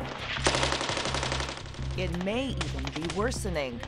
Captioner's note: rapid gunfire